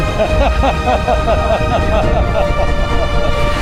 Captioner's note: laughing together